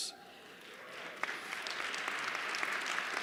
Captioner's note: applause